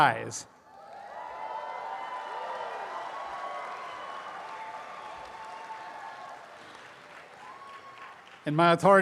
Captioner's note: applause and cheering